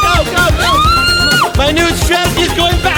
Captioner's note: screaming